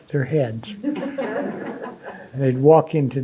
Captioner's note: audience laughing